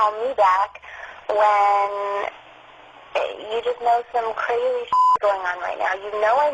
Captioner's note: beep